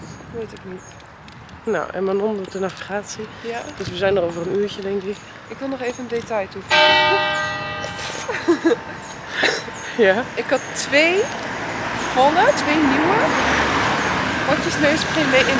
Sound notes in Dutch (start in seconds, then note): 6.7 Klok luidt